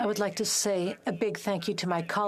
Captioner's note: speaking FRENCH